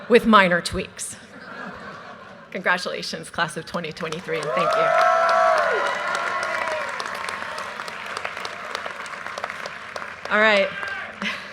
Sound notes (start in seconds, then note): 1.4 audience laughter; 4.1 audience cheers and applause